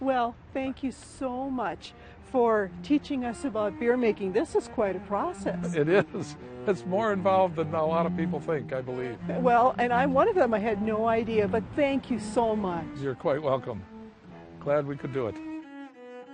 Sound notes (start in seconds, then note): 5.3 laughs